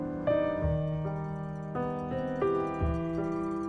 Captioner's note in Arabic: أجراس البقر البعيدة